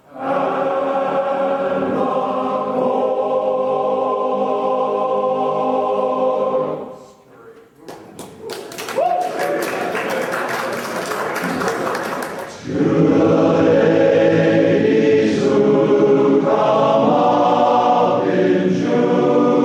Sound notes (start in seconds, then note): 7.8 choir members clapping; 8.8 choir whooping